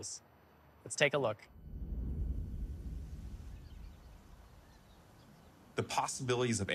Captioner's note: birds chirping